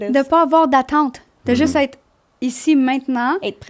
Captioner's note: in french